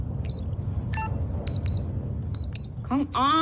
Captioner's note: beeping